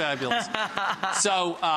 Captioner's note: laughs